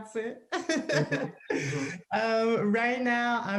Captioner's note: laughing